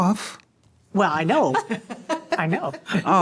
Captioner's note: laughter